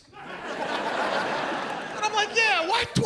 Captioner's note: audience laughs